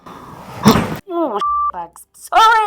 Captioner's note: beep